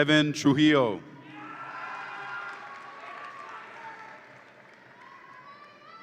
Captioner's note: audience applauds and cheers